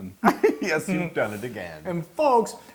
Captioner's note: laugh